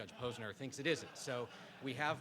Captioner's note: participants laugh